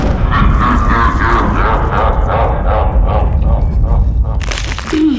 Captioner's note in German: evil laugh